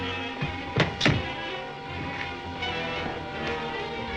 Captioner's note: feet thud